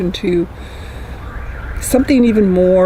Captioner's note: nature and traffic sounds